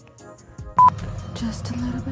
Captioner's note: beeping